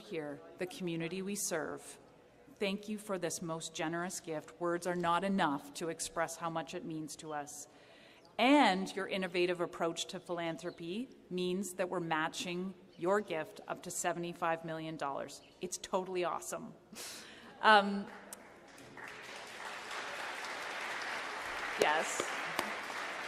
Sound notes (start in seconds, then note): 18.1 applause